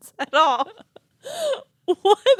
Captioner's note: both laughing